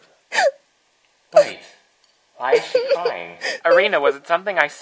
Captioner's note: sobs; Erina continues to cry